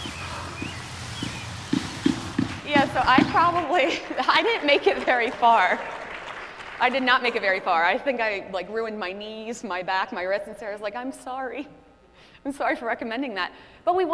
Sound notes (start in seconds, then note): 6.2 audience applauding